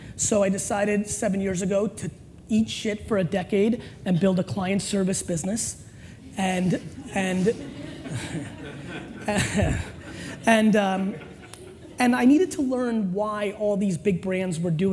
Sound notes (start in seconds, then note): 6.6 laughter; 9.2 chuckles